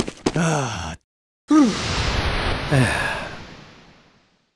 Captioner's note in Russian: тяжёлое дыхание и отключение маскировки